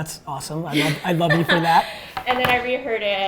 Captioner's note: laughs